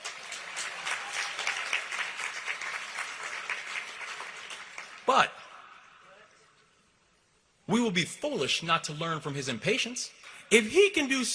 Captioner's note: applause